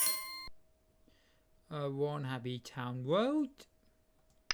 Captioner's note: none